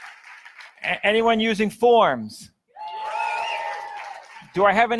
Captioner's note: audience cheers; audience cheers